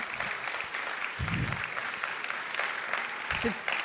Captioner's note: audience applauding